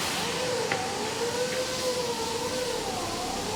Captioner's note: machinery whirs